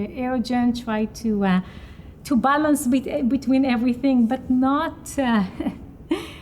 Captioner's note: giggles